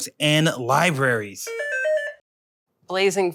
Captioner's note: buzzer